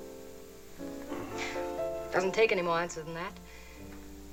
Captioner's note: chuckles